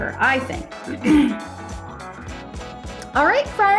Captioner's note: clears throat